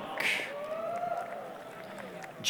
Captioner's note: applause, cheering